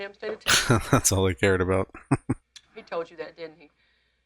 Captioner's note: chuckling